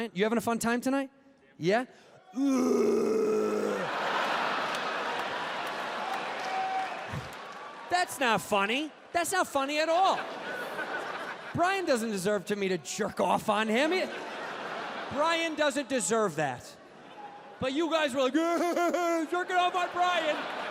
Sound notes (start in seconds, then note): 2.3 guttural grunt; 3.6 audience laughs